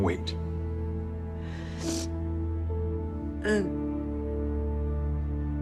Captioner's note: sniffles